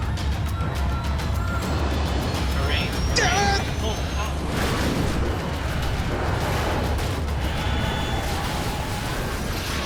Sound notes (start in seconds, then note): 0.2 suspenseful music; 1.6 engine whines; 4.3 loud explosions